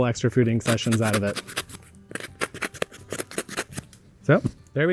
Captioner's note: knife cutting